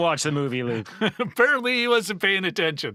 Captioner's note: laughing